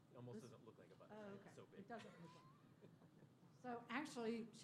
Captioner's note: laughter